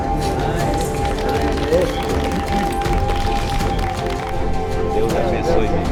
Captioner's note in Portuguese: trilha sonora inspiradora; aplausos; trilha sonora inspiradora